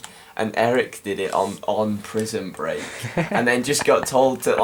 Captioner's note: Arnold laughs